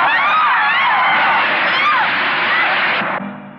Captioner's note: splashing; yelling